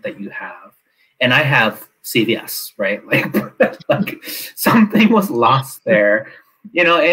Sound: laughs

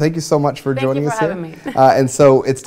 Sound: laughing

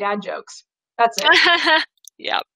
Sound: laughs

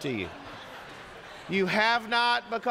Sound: congregation laughing

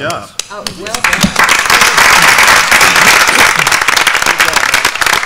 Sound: applause

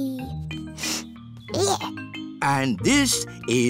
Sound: sniffs

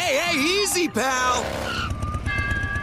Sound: motocycle noises

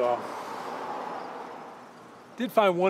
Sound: road din

